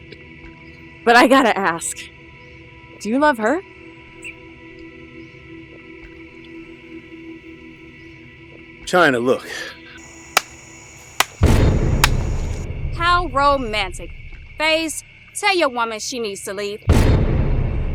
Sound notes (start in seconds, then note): 10.0 ninja clapping